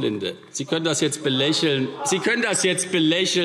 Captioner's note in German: Lachen